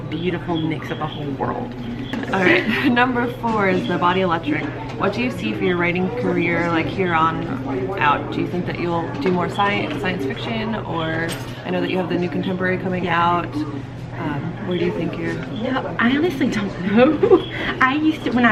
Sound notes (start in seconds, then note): 16.8 laughing